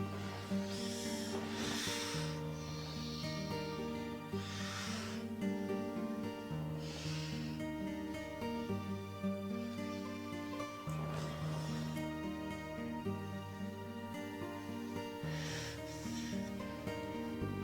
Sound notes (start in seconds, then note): 1.3 Ronnie moans; 1.3 Ronnie sighs